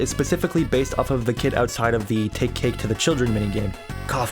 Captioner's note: none